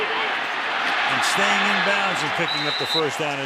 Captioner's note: cheering